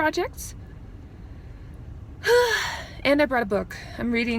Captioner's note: sigh